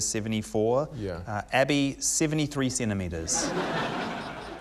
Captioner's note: laughter